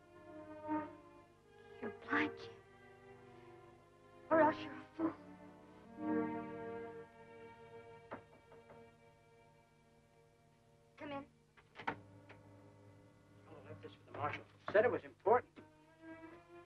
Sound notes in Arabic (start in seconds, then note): 8.1 طرق خفيف